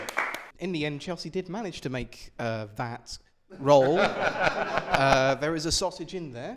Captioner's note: laughter